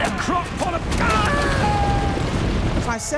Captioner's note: screaming